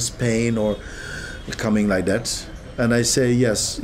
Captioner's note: makes gasping noise